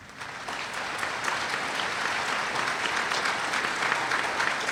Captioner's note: applause